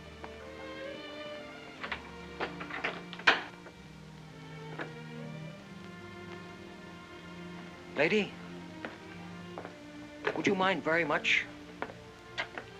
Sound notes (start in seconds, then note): 0.0 soft music; 2.4 door closes; 4.6 soft music